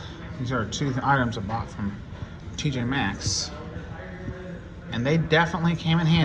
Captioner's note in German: none